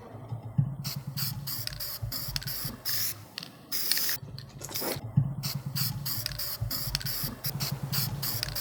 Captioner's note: spray can sounds